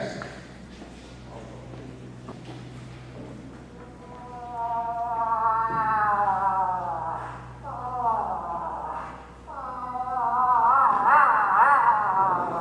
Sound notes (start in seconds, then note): 5.5 moose call